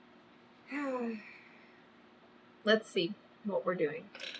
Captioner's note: sighs